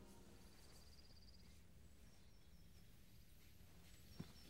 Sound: birds chirping

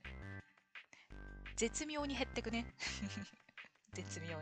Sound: laughs

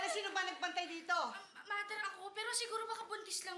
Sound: stammers

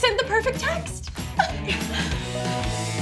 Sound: chuckles

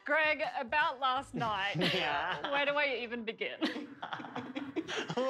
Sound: laughter

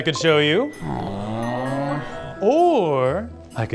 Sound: elves sigh disapprovingly

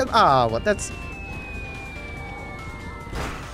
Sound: ”Bomb dropping from air” sound

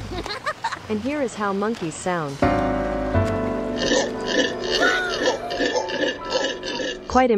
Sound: monkey sounds

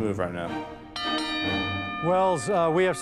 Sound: bell dings

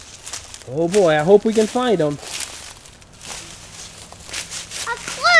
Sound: voiceover

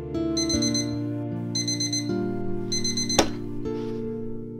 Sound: alarm clock blares

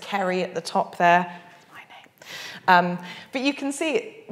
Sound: whispers

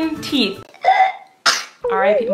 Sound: burping noise

